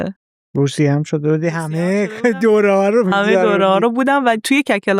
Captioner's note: laughs